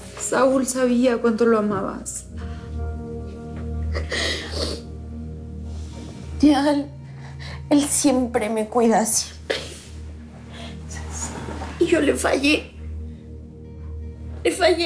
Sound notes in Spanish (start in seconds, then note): 3.9 Sollozos